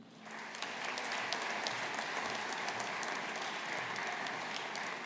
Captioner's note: audience applauding